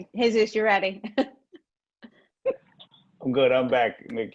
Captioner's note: laughs